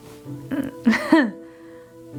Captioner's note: A Laugh, but there is no humor